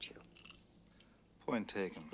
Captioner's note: ice cubes rattling